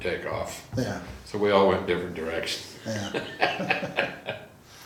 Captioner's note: laughs